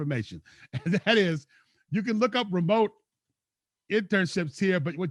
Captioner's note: laughs